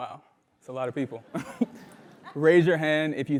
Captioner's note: laugh